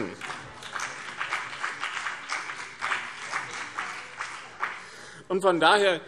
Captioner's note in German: Beifall BÜNDNIS 90/DIE GRÜNEN und vereinzelt CDU